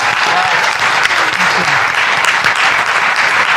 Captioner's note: applause